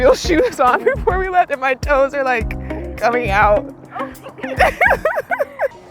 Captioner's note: laughs